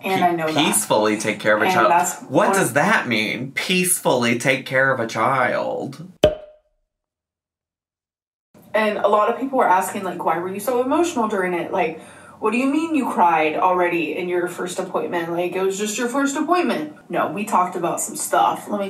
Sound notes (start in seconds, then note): 6.2 cork pops